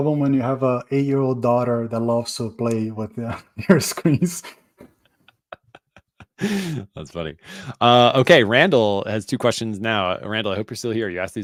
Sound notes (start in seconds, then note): 3.6 chuckling